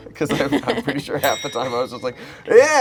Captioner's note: bell clicking sound